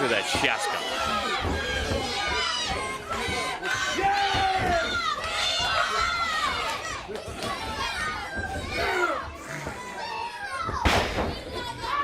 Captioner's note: crowd chatter